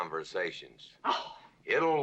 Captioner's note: scoffs